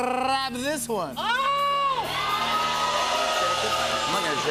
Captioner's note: cheers and applause